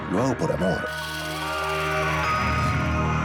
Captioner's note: man yelling